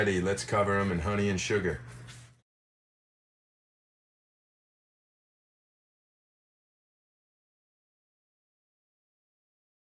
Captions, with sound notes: let's cover them in honey and sugar. (sugar sifting)